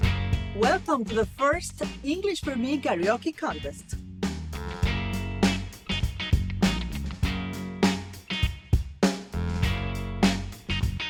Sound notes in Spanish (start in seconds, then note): 0.5 hablando en inglés; 4.3 continúa la música alegre